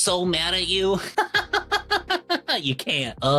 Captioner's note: laughs